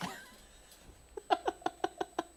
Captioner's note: laughter